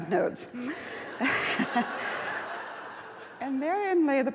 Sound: laughs

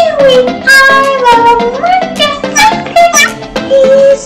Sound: meow! Meow!

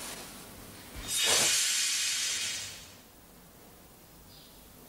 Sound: magical shimmering

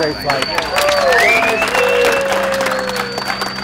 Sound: applauding

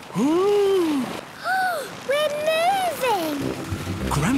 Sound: sliding; Peppa gasps

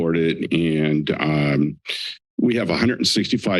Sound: laughs

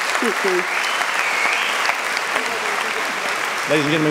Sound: audience clapping

